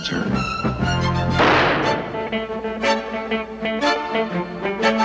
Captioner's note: gunfire blaring